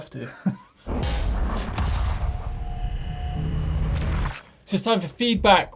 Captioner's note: electronic metallic zapping